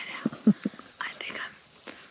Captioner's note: cameraman chuckles